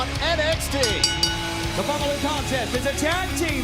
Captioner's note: bell ringing